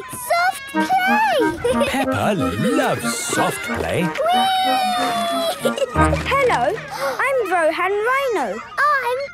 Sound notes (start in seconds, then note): 4.3 giggling